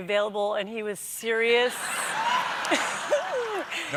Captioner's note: laughter